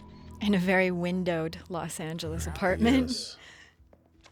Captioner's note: chuckles